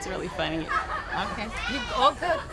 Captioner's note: girls laughing